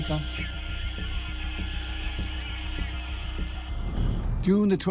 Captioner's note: radio crackles